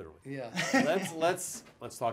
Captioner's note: laughs